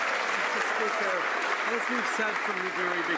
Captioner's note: some Applause